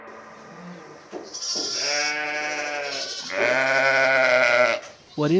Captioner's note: sheep bleating